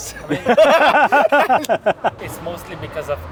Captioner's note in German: beide lachen